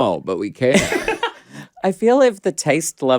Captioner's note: laughs